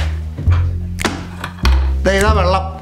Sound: thuds

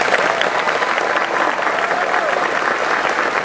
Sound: applause

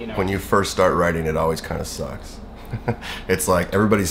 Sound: laughs

